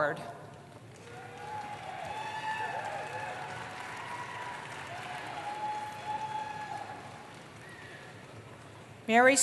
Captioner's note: cheering